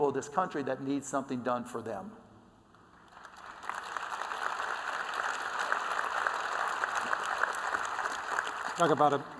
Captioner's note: applause